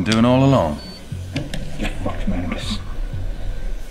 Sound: muttered

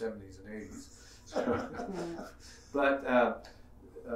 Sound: laughing

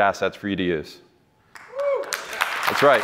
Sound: applause

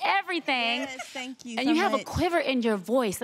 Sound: giggling

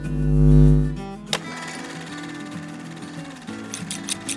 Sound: light hums; camera reel flutters; scissors clip

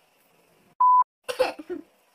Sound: beep; coughs

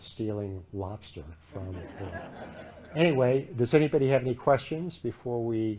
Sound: laughter

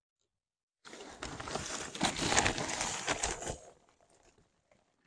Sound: rustling

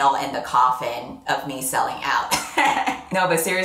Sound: laughs

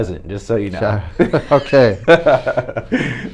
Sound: laughs

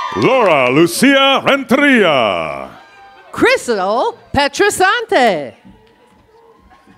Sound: cheers and applause

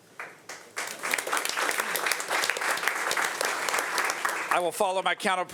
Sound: audience applauding

